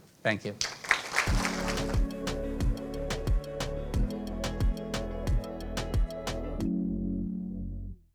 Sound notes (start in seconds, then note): 0.6 audience applauding; 1.2 gentle upbeat music